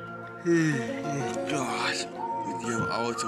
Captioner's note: yawns